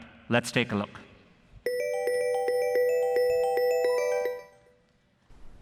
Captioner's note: phone ringing